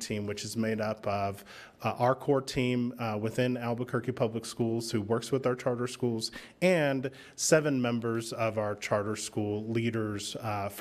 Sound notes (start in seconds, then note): none